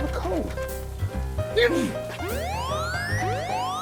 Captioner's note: dick sneezes; blaring alarm